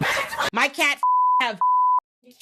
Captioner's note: beep